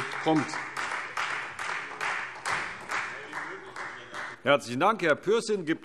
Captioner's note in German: Beifall : So schnell wie möglich!